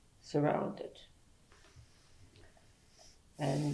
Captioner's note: pauses for 3 seconds